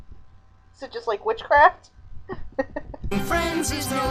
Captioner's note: chuckling